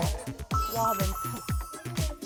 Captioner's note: admiring sound effect